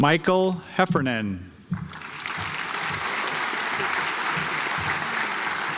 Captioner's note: audience applauds